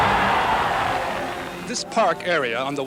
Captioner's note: cheering